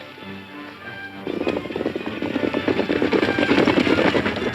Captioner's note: horses galloping